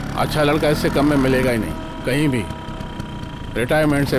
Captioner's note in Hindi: none